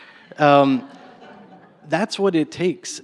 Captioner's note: laughter